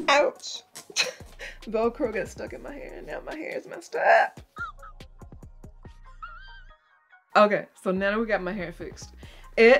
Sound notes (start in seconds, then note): 1.1 laughing; 4.6 crying